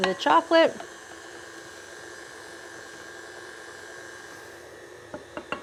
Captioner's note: mixer whirring